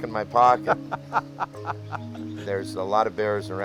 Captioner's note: laughter